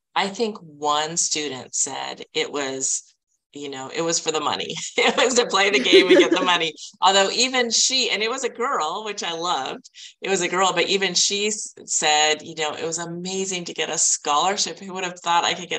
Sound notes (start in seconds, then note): 4.8 chuckling